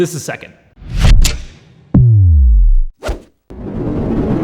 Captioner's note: clicking; swiping; whooshing